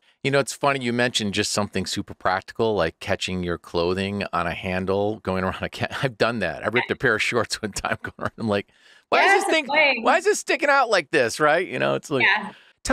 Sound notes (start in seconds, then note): 4.9 chuckles